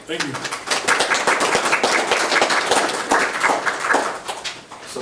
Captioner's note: group applauding